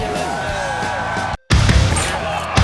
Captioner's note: audience cheers